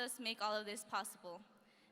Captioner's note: none